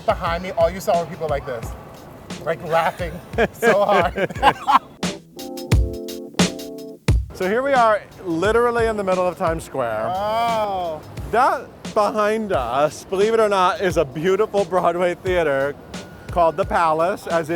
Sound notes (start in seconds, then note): 2.7 both laughing